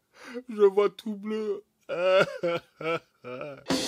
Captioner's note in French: pleurs